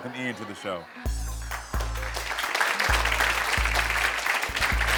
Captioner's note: audience applauds